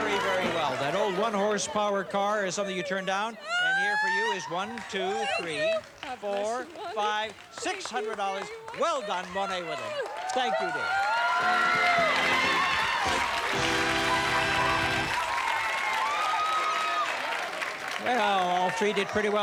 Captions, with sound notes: That old one horsepower car is something you turned down and here for you is 1, 2, 3, 4, 5, $600. Well done, Monet Woodland. -Thank you. -Thank you, dear. (cheers and applause) (theme music playing) Well, all three did pretty well there you know.